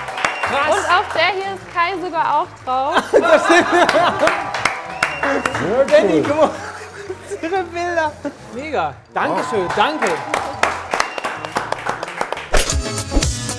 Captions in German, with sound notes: Krass! - Auf der hier ist Kai sogar auch drauf. (Lachen) (Applaus, Pfiffe) Benni, guck mal. Diese Bilder. Mega. Danke schön. Danke!